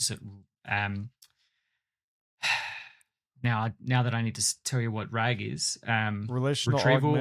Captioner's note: sighs